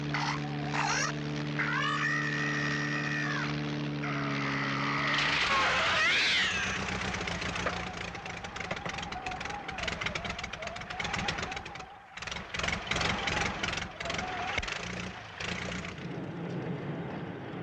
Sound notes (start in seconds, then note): 5.4 shrieks; 7.9 engine sputters; 15.5 engine dies